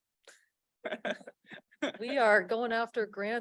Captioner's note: laughter